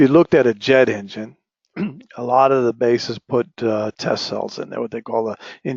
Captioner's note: cough